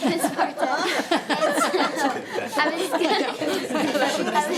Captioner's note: panel laughing